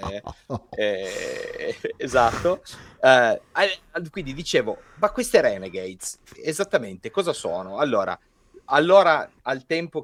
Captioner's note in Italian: sbuffare